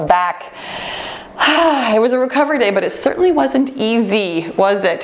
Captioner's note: sighs